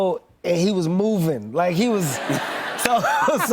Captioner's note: laughter